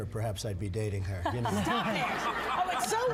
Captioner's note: laugh